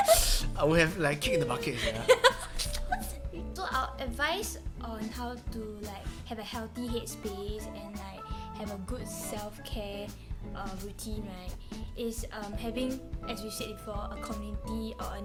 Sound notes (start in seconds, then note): 1.2 laughing